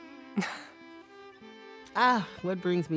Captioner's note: chuckles